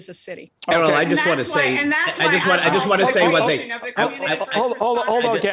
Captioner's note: group chattering